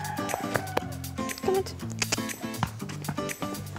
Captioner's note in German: Schnalzen